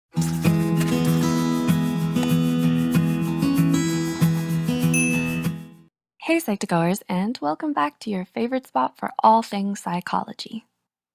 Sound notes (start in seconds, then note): 0.2 calm upbeat music; 4.9 eye chimes